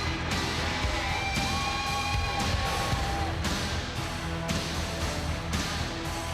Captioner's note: crowd cheering continues; upbeat rock music continues